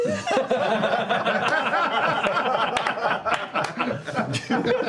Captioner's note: laughter